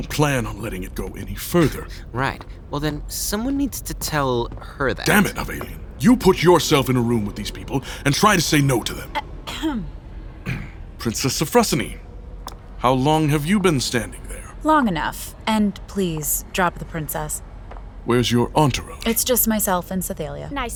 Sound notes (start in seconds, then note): 10.4 sounds of throat clearing